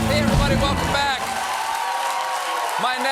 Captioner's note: cheers and applause